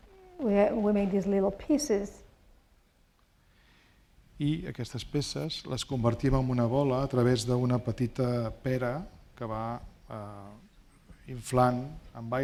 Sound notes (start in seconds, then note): 4.7 speaking spanish